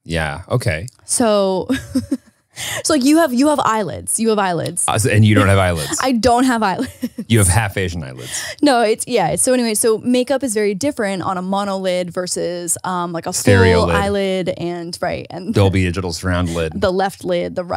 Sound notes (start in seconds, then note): 1.6 laughs